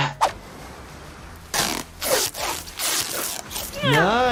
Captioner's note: tape screeches